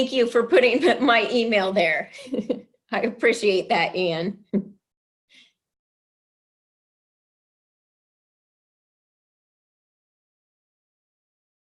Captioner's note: long pause